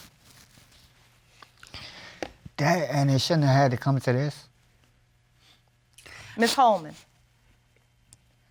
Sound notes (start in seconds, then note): 7.0 sniffles